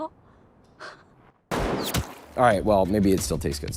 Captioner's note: sniper shoots